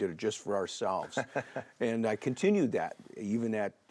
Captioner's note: laughs